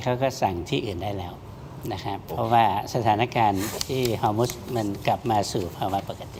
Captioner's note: sound of inhaling